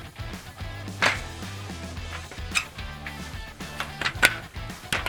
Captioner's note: metallic clicks